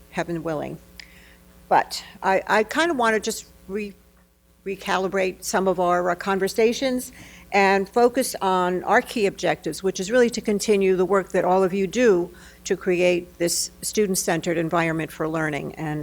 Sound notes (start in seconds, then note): none